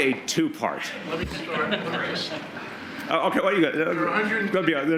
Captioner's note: laughter